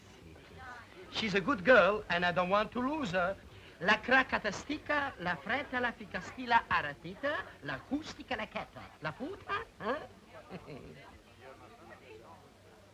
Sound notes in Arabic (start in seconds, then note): 3.3 بوريس يتحدث لغة أجنبية; 10.0 بوريس يضحك